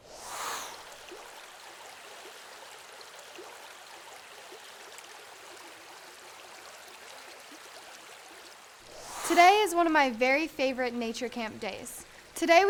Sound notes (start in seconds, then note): 0.0 whoosh; 1.4 water running